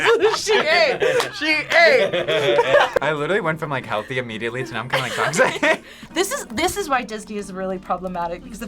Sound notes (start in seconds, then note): 4.9 laughs